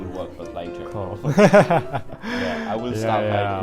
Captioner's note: laughs